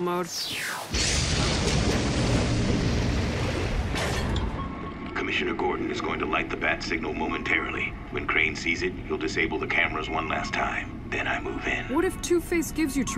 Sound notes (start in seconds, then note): 0.3 water bubbling; 0.8 submarine whooshing; 3.8 radar beeping